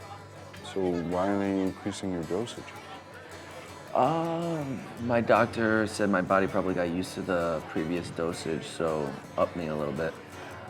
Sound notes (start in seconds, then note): none